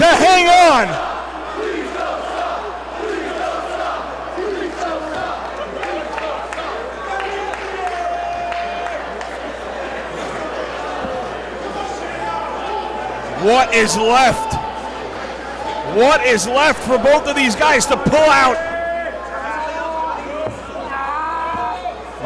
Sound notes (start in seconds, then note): 5.4 applause